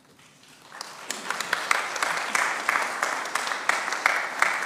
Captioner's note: congregation applauds